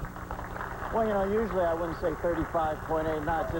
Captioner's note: applause